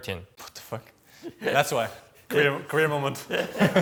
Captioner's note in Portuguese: risos